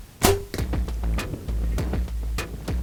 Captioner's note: arrow whooshes; tense music begins